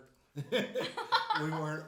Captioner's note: laughing